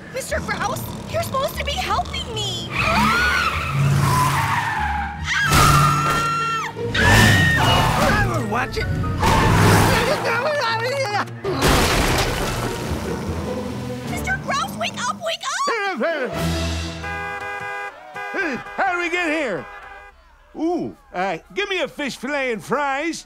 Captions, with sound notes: Mr. Grouse, you're supposed to be helping me! [screaming] [screaming] Watch it! [muttering] [crashing] Mr. Grouse, wake up, wake up! [honking] How did we get here?! Ooh, uh, give me a fish filet and fries.